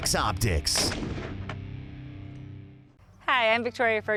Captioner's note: gunshot